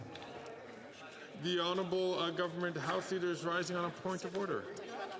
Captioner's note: speaking French